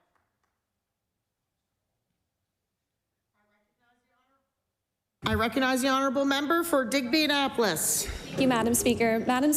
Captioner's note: applause